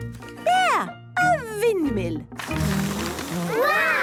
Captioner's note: blows